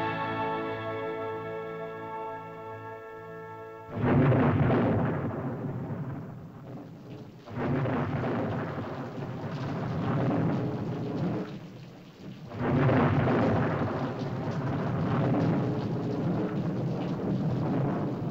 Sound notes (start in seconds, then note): 3.8 thunder rolls; 6.8 rain patters; 6.8 thunder rolls